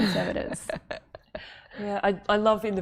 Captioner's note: laughter